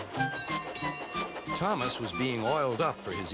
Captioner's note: dings bell